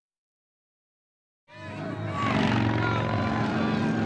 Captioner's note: crowd cheering